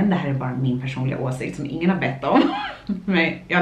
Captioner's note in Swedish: skratt